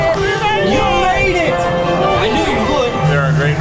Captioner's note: automated Voice